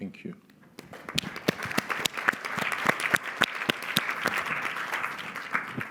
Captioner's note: applause